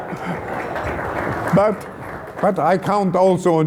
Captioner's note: applause